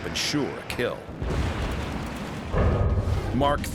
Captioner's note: explosion